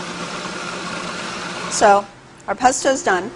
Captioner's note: whirring